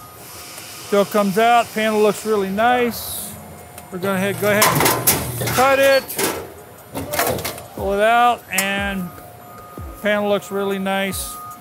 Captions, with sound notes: Comes out. Panel looks really nice. We're gonna go ahead and cut it. (metal clanks) Pull it out and panel looks really nice.